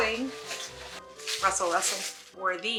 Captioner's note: rustle